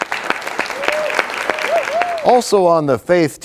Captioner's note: applause